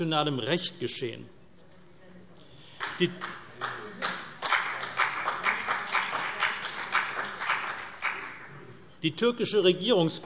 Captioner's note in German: Beifall CDU und BÜNDNIS 90/DIE GRÜNEN